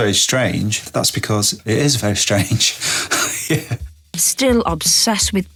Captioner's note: laughs